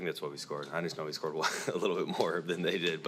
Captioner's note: laughs